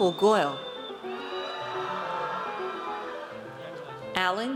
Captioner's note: audience cheers